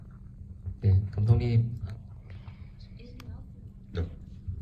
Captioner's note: speaks in foreign language